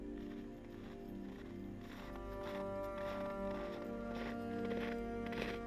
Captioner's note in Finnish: jousimusiikki soi taustalla; yksinäiset askeleet lumessa